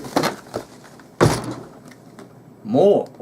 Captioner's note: thud!